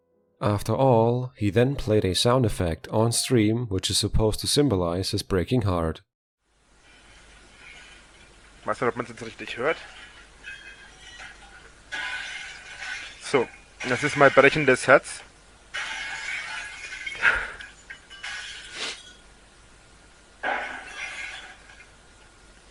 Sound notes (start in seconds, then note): 15.7 loud crashing in the background; 17.2 sniffling; 20.4 more glass breaking²